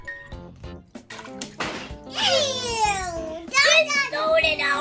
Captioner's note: pleasant music; water splashes